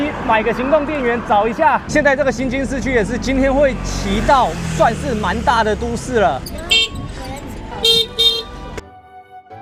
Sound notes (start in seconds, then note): 6.4 background sounds are all beeps